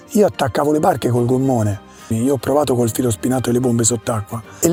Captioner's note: speaking Italian